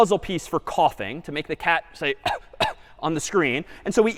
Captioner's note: coughs